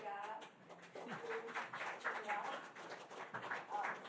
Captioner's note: applause